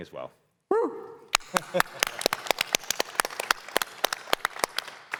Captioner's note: applause